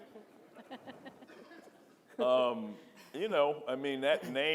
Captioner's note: audience laughing